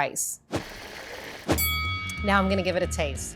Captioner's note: bell rings